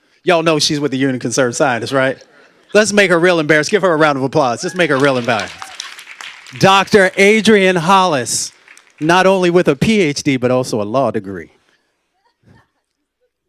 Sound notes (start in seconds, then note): 4.6 applause